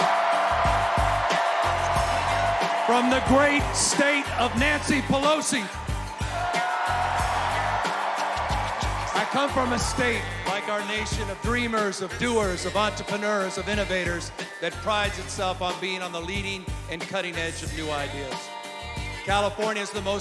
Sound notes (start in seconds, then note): 6.3 cheers and applause